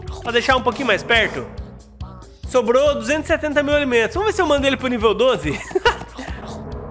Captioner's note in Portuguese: risos